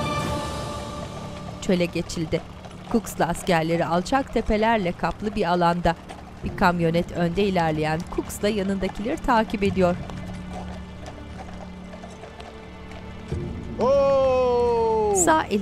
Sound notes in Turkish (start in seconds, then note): 1.5 Araba sesi; 1.5 At nalı sesleri